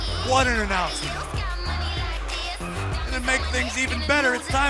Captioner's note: crowd cheering